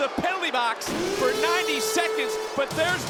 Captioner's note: horn blares